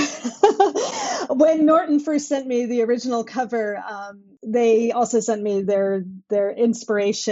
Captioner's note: laughter